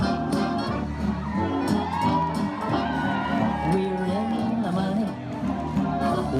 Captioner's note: cheers and applause